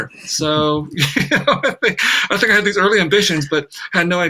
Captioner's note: laughs